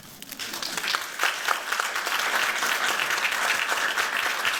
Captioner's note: applause